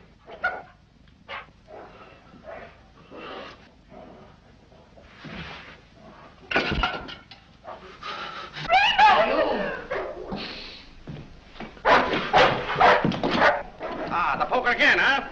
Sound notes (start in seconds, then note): 8.6 scream of terror; 11.8 dog barks ferociously